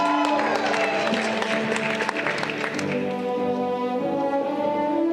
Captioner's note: audience clapping